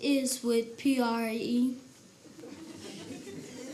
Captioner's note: laughing